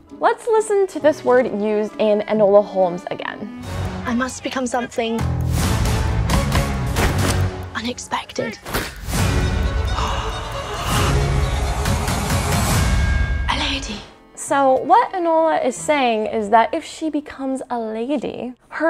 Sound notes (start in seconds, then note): 5.3 dramatic music; 9.9 shopkeeper gasping